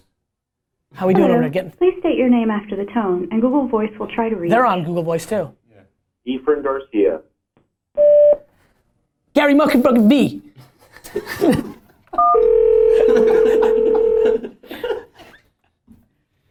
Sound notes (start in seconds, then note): 8.0 phone beeps; 12.2 phone rings; 12.9 laughter